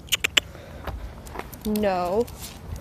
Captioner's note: clicks tongue